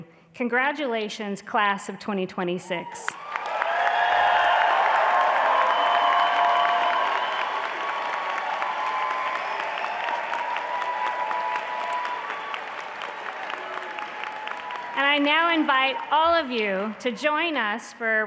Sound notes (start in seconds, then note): 3.3 applause; 10.4 audience clapping